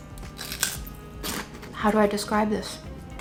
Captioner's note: chip crunching